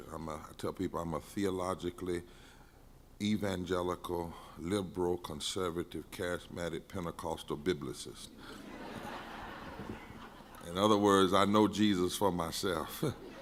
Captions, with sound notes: I'm tell people I'm a theologically evangelical, liberal conservative, charismatic Pentecostal Biblicist. (crowd laughing) In other words I know Jesus for myself.